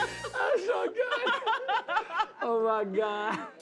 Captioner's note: laughs